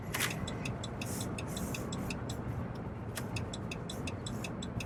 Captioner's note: turn signal blinking